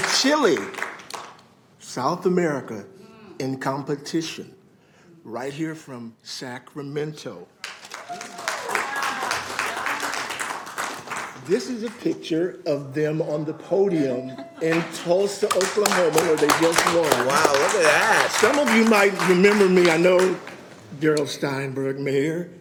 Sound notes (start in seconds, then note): 17.5 applause